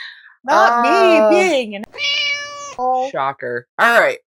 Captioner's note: meow